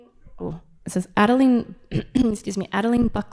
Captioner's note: clears throat